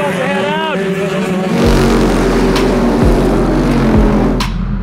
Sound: engines revving

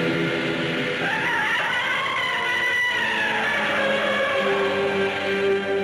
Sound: Gammera screeches; dramatic music

